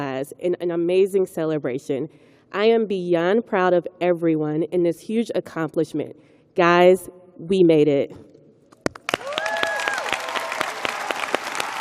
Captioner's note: cheers and applause